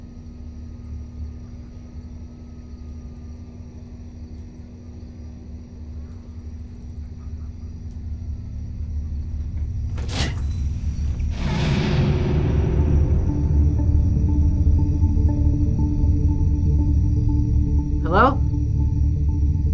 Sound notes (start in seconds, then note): 9.6 door unfastens